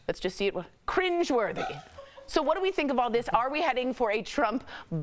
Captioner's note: laughter